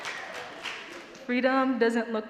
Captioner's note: audience cheering and clapping